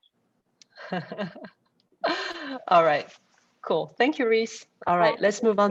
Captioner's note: laughs